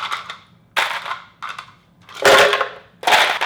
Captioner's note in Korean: 얼음가는 소리